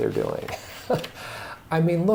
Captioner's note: chuckles